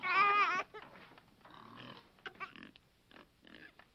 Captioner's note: baby crying